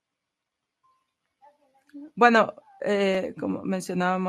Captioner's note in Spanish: a través de intérprete